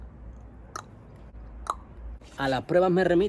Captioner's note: strange sound with the mouth